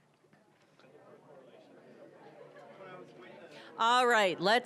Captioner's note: general chatter